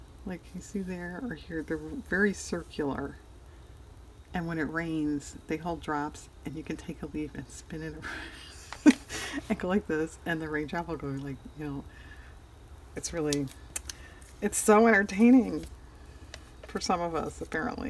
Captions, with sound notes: like see there or here, they're very circular and when it rains they hold drops and you can take a leaf and spin it (laughs) and go like this and the raindrop will go like... it's really-- it's so entertaining for some of us apparently